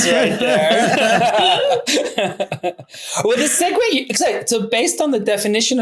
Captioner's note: everyone laughing